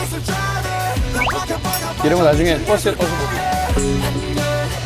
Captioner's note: swirling